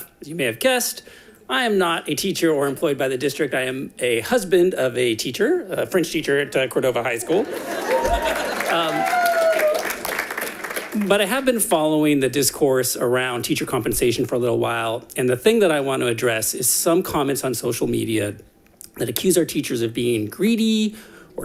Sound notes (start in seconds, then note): 7.2 audience applauding